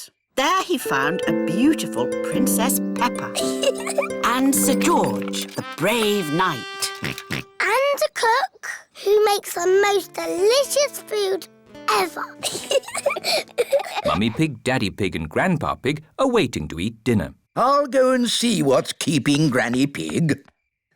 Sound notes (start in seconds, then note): 3.4 chuckles; 7.0 oinks; 12.4 both giggle